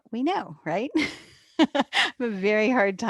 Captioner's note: chuckles